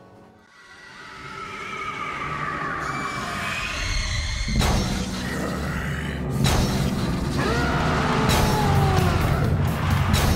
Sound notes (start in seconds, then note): 0.4 spooky ethereal music; 5.4 heavy breathing; 7.3 roaring